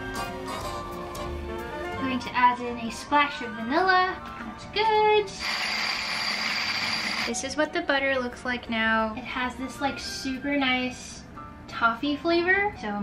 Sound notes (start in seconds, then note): 0.0 jazzy music; 5.4 whirring